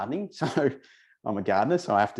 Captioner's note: chuckles